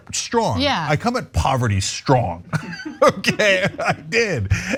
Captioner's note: laugh